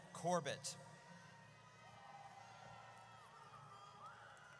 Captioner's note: audience cheers